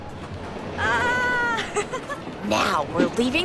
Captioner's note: Buster giggling